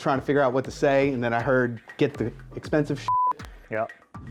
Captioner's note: beep